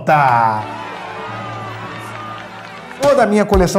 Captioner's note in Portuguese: aplausos